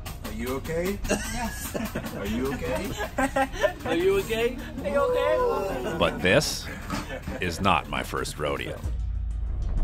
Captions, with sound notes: Are you ok? [Laughter] Are you ok? [Laughter] Are you ok? Are you ok? But this is not my first rodeo.